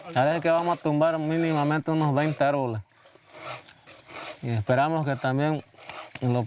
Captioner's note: people chattering; speaking in foreign language